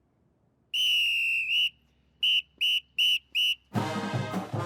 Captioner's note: whistle blowing